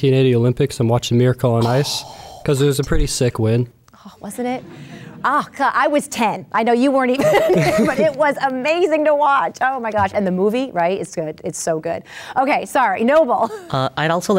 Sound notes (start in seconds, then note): 7.2 laughs; 13.5 laughs